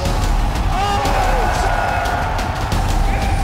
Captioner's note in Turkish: seyirci alkışlıyor